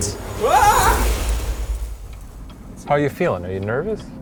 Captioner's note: yelling